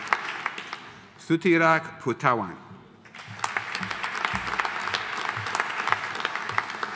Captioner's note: audience applauding